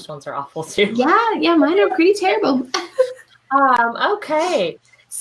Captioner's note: chuckles